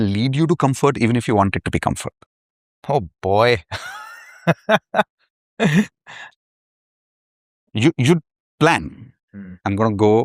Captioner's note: laughter